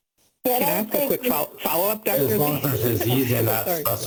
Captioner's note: murmuring